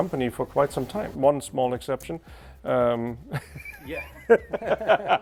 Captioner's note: laughs